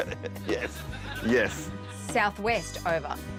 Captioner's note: laughs